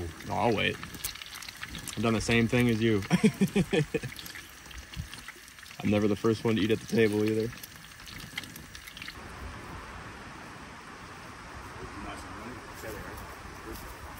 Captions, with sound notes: -No, I'll wait. I've done the same thing as you. (laughs) I'm never the first one to eat at the table either. -They're nice and runny.